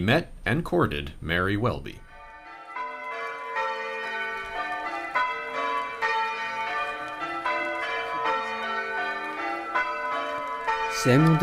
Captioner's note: wedding bells ring